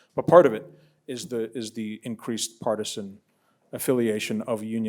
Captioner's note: none